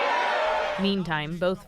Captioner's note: cheering